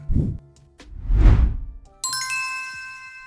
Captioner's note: air whooshing